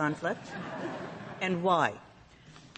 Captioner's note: laughter